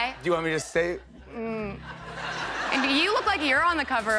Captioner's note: laughter